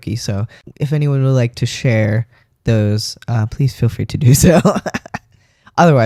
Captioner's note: laugh